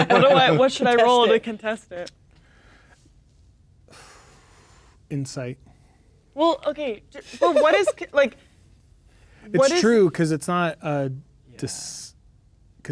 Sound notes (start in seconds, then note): 3.9 exhales; 7.2 laughing